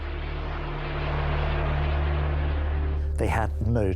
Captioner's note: aeroplane whooshing